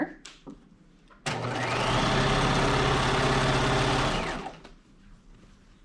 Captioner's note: sewing machine whirring